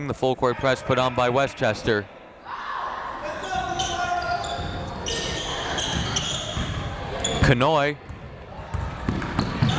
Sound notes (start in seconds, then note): 2.4 crowd members shouting